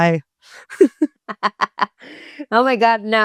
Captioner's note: all Laughing